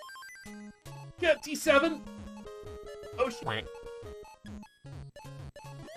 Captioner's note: quack* sound